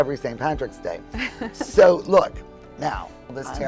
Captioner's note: laughing